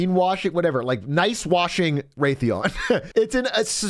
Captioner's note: laughs